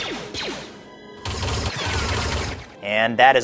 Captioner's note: rapid blaster fire